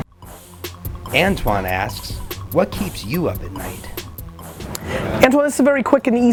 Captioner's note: voiceover